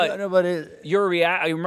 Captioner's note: both laugh